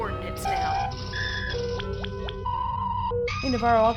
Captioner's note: computer sounds